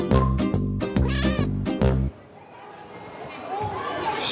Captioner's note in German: Miauen, Musik verklingt